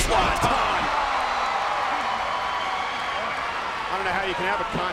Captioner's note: spectators cheering